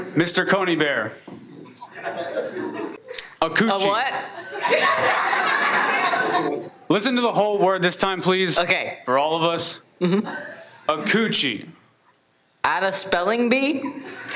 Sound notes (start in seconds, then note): 4.4 everyone laughs; 14.2 everyone laughs